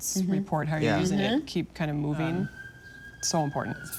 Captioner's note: siren wails